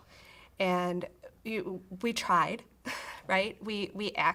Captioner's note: chuckles